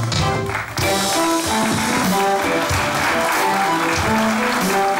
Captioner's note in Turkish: Alkış sesleri